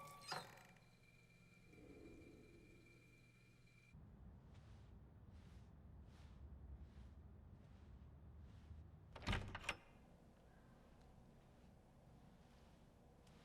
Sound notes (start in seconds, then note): 0.0 faucets squeak; 9.2 door opens